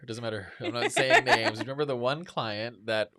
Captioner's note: laughs